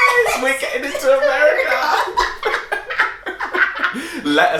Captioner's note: laughing